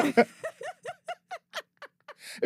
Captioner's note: laughing